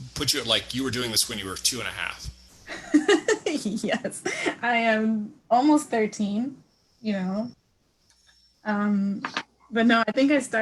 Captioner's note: laughs